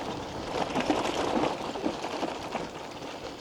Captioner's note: bike rattles over rough trail